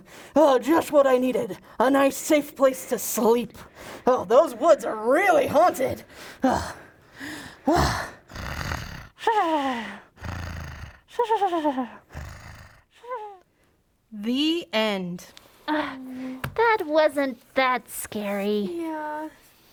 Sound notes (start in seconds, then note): 0.0 breathing; 7.5 snoring